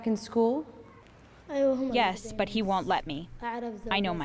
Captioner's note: through translator